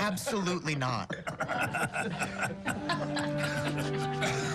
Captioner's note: laughs; laughter